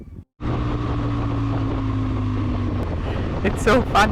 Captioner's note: motorbike roaring